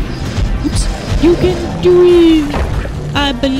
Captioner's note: silly voice